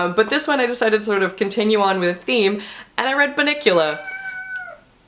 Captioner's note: cat meows